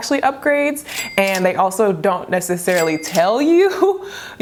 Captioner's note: register dings